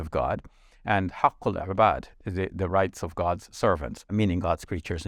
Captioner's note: speaks Arabic